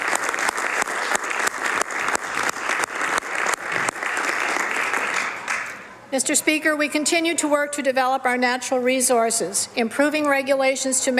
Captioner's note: applause